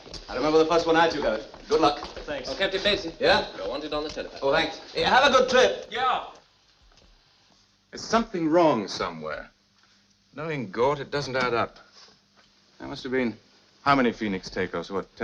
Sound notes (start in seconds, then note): none